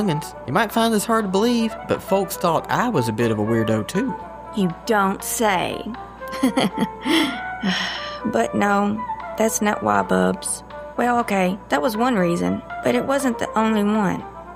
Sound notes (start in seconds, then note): 6.3 Charlene laughs